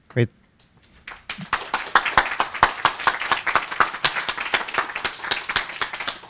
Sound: applause

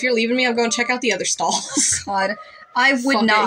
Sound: laugh

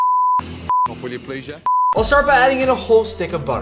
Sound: beep

